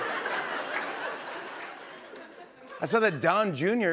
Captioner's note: laughter